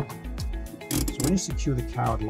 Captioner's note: handbrake clunking; lever clicking